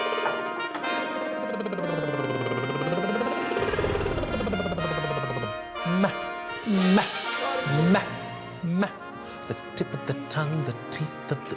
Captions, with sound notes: (WAGGLES TONGUE RAPIDLY) Mah! Mah! Mah! Mah! The tip of the tongue. The tip...